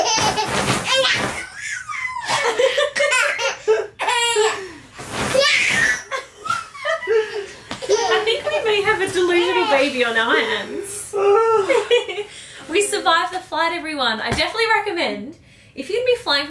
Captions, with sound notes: (laughing) (laughing) - I think we may have a delusional baby on our hands. (laughing) We survived the flight, everyone. I definitely recommend if you'd be flying